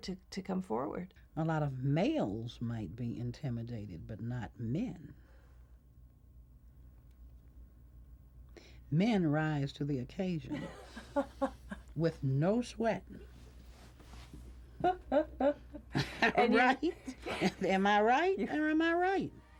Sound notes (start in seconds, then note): 12.0 laughs; 16.5 laughs